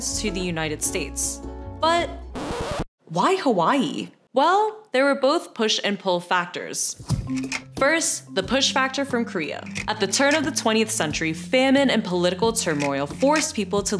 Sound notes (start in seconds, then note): 2.3 record scratches